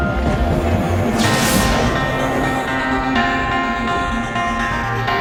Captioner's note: lighting crashes